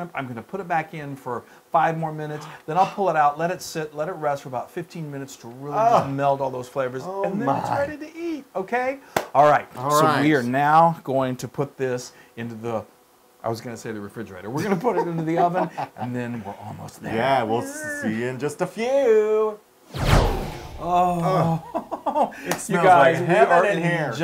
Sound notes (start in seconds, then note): 14.6 laugh